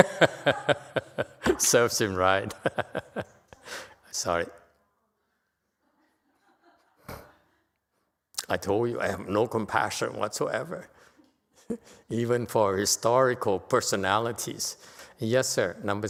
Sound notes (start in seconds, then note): 0.0 laughter; 3.2 laughter